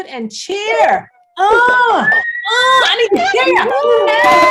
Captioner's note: all cheering